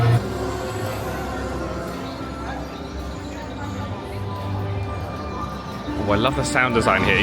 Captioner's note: people chatter; whimsical music